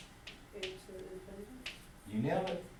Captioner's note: voiceover